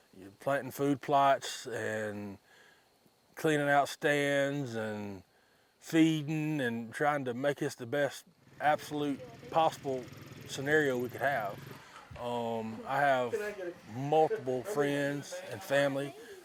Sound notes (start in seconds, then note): 8.3 engine rumbles